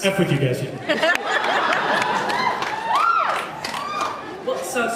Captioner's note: laughs, cheers